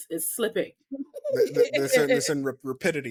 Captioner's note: laughing